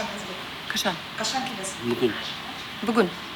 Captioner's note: in Kazakh